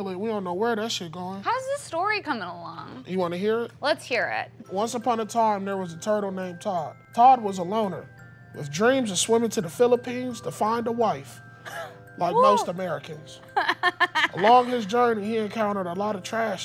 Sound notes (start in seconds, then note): 13.5 laughing